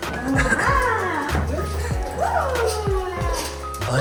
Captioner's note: Marly's excitement whining